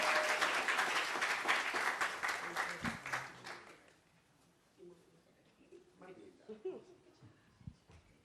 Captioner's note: applause